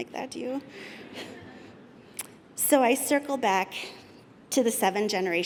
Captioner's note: laughter